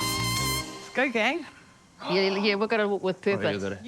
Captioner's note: gasps